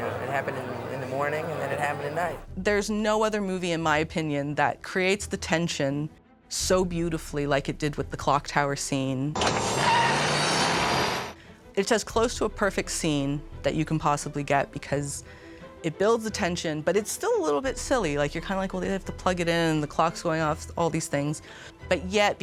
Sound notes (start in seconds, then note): 9.4 car revving